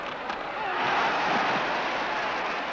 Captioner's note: crowd yells "ole"